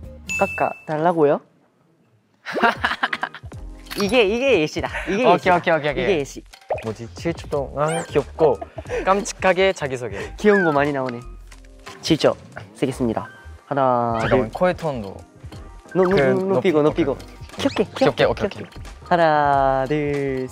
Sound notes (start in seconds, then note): 2.5 laughing